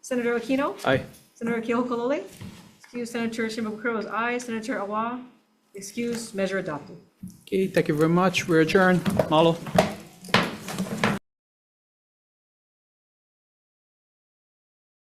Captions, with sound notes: Senator Aquino? - Aye. - Senator Keohokalole, excused. Senator Shimabukuro was aye. Senator Awa, excused. Measure adopted. - Okay, thank you very much. We're adjourned, mahalo. (gavel bangs)